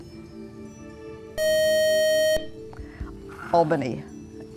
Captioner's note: beeping